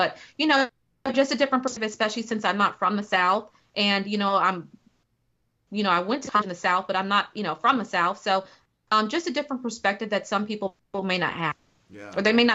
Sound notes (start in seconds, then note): 6.1 technical interference